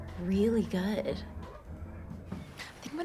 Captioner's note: birds chirping